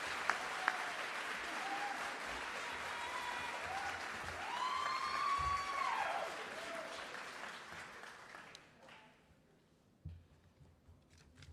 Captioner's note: cheering and applause